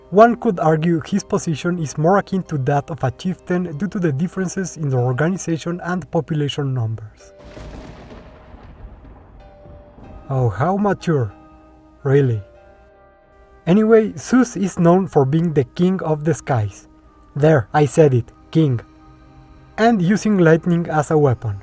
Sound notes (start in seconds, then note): 7.3 thunders in the background